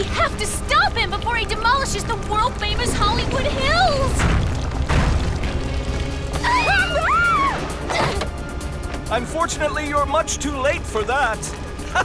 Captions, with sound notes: the world-famous Hollywood Hills! [SCREAMING] Unfortunately, you're much too late for that. [EVIL LAUGHTER]